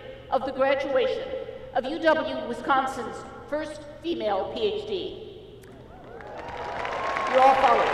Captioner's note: applause